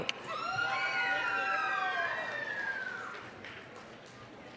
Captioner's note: applause, cheering